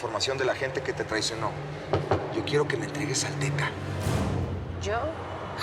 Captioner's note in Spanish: toques en la mesa